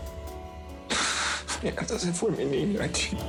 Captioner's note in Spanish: Sollozos